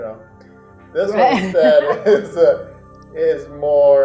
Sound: client laughing

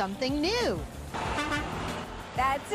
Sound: horn honks

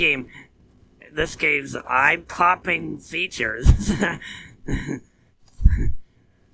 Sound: snickering

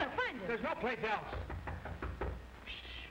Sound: knocking on door

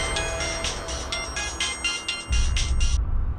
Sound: suspenseful music playing; mobile ringing

